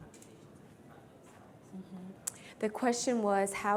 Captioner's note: speaks faintly